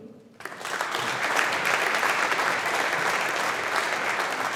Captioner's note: audience applauding